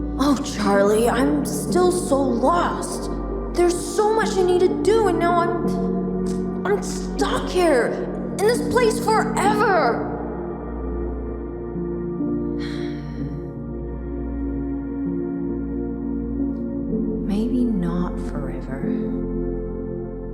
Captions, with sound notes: Oh Charlie, I'm still so lost! There's so much I need to do and now I'm... I'm stuck here! In this place forever! [SIGH] Maybe not forever...